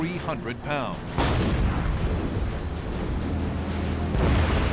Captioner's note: explosions